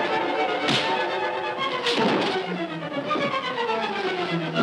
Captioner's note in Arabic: اشتباك، ارتطام